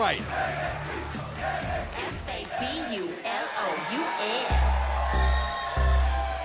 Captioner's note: fans chanting